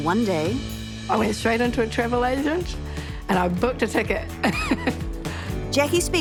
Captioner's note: laughs